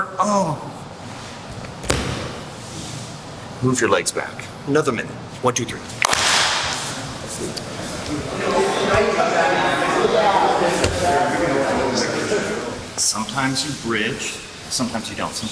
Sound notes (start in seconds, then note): 6.0 clap; 8.7 indistinct conversation